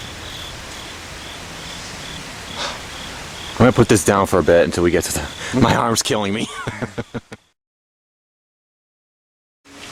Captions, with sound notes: (Deep Breath) I'n gonna put this down for a bit, until we get th... my arm is killing me! (Laughing)